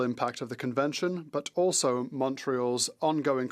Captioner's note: speaking French